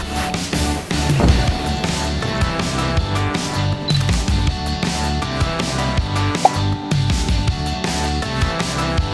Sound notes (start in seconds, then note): 1.1 upbeat music; 3.7 camera beeps and clicks